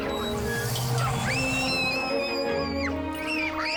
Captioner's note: kids screaming